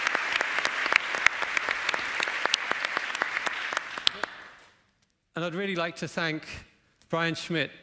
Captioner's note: applause